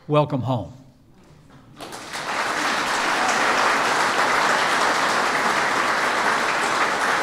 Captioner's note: applause